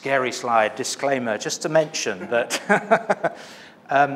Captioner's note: laughs